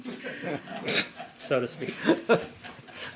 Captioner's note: laughter